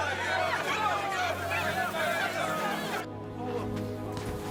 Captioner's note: shouting